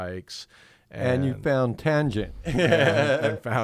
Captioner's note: laughs